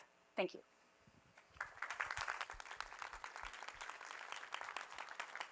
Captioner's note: applause